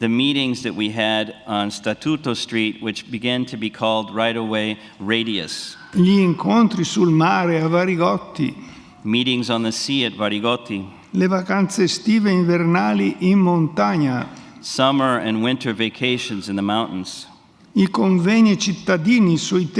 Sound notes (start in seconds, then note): 0.0 speaks in Italian; 6.3 speaks in Italian; 11.5 speaks in Italian